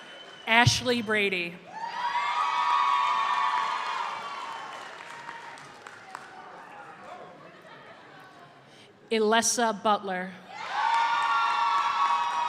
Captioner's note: cheers